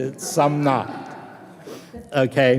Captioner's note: audience laughing